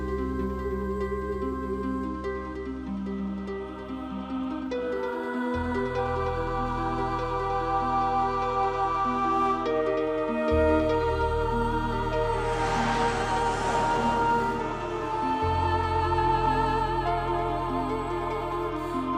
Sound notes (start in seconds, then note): 12.6 static buzzing; 12.6 wordless vocal music